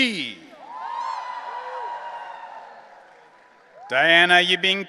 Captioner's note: audience cheering